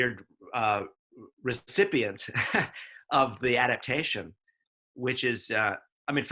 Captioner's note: chuckles